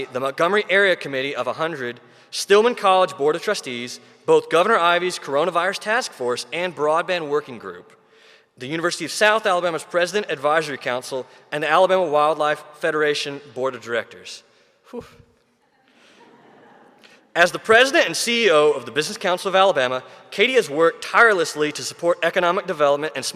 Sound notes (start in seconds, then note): 14.9 sighing in amazement; 16.0 audience chuckling